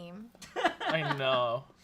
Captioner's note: laughs